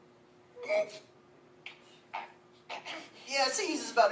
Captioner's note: strained grunting